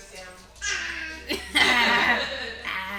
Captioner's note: baby coos; laughs